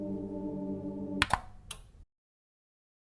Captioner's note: light switch click